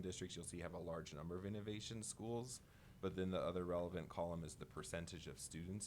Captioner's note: none